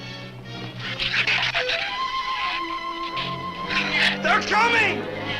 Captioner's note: shrew chatter